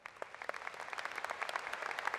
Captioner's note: applause